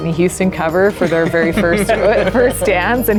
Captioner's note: laughs